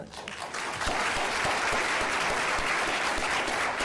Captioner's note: applauding